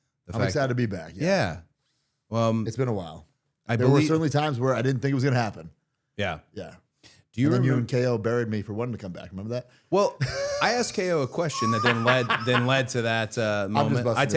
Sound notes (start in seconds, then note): 10.2 laughing